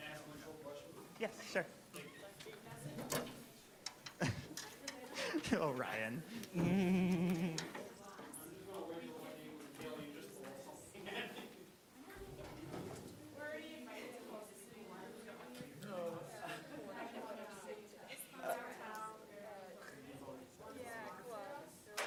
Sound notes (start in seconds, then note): 4.3 laughing; 6.3 laughs; 9.0 students chattering